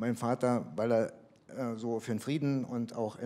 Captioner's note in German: none